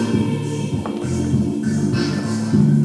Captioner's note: footsteps